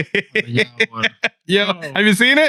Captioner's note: laughing